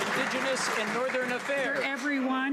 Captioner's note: some Applause